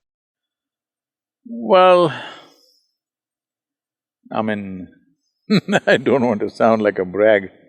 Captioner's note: laughs